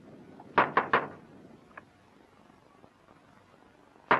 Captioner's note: knocking on door